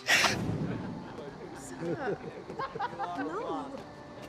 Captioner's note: people chattering